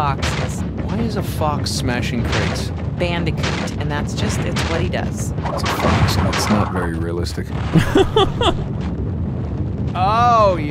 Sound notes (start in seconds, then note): 7.7 laughs